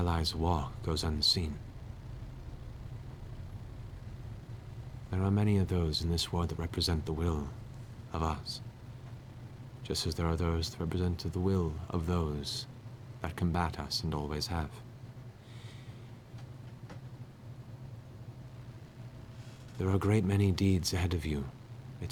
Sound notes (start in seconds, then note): none